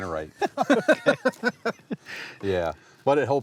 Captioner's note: laughs